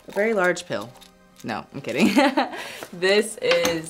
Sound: laughs

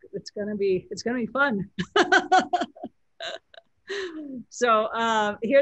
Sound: laughs

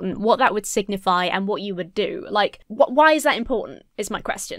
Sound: none

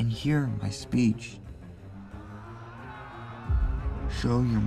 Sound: army chanting

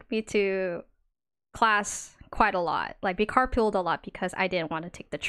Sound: none

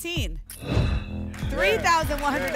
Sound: whoosh

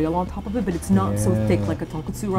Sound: just groaning in the back

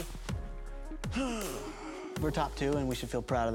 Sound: sighs

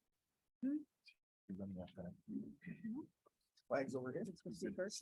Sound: indistinct conversation

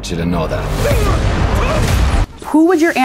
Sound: grunting

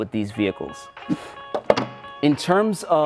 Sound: air whooshing

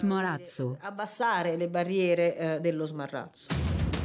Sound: speaking in Italian; brooding music

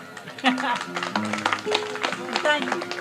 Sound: audience applauds, chuckles

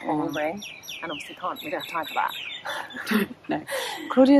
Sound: laughs

